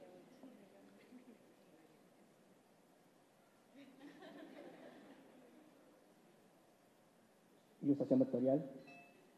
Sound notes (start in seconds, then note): 3.8 laughs